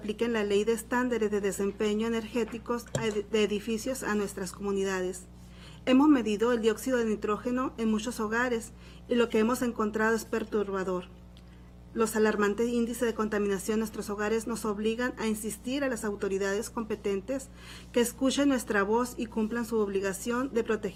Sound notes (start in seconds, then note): 8.2 speaking spanish